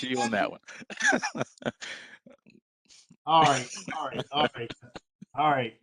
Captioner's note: laughter